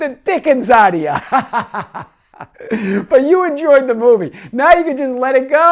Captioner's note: laughs